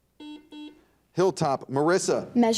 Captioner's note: buzzer dings